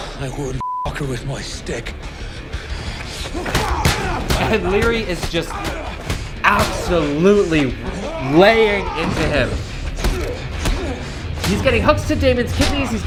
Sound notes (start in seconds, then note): 0.6 beep; 3.6 men grunting; 9.9 men grunting